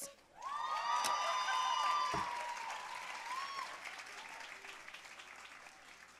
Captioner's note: audience cheering and applauding